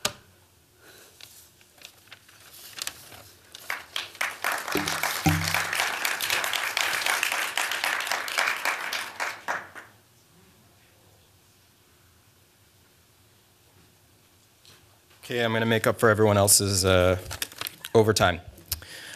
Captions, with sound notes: [applause] OK, I'm going to make up for everyone else's overtime.